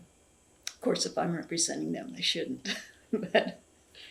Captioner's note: laughs